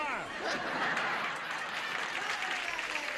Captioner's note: audience applauding